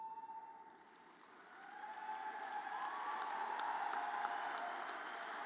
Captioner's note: audience cheers